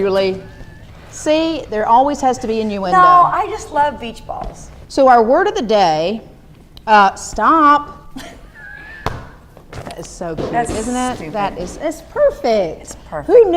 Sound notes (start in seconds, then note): 8.2 both chattering